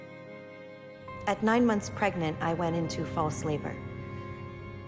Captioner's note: voiceover